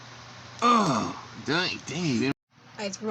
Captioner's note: Shcokwave Groans And Thomas Talking